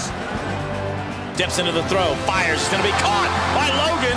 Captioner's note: voiceover